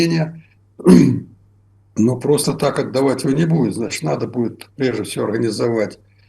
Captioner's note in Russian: откашливается